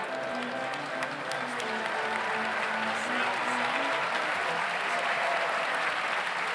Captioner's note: audience applauds